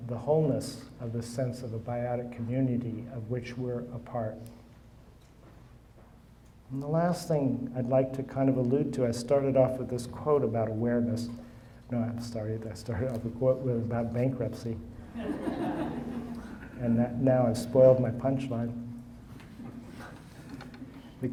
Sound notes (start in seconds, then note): 15.1 audience laughing